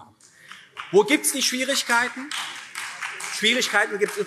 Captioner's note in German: Beifall SPD